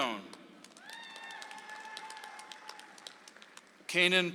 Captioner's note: audience applauds